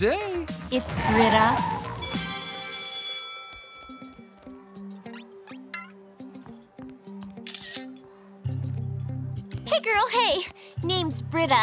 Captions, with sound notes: It's Brita. [bell ringing] Hey, girl, hey. Name's Brita.